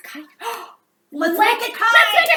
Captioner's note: both gasp